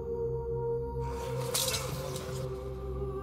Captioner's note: shouting